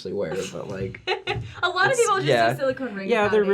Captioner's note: laughing